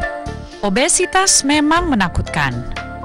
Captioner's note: non-english speech